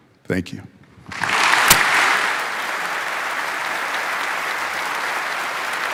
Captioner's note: audience applauding